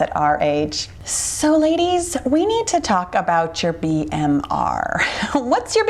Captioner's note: chuckles